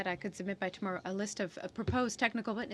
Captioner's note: speaking french